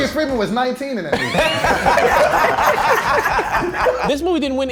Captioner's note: all laughing